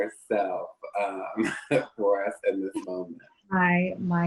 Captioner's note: laughs